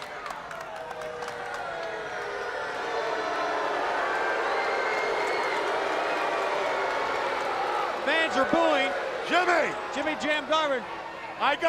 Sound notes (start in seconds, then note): 0.5 crowd booing